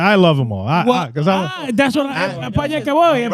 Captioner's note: speaking In Foreign Language